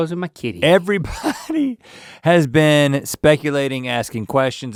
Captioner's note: laughing